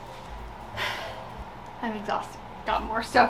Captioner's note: exhales